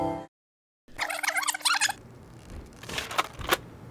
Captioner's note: tape rewinding